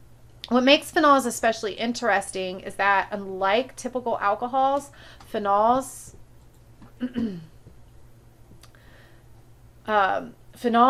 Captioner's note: clears throat and cough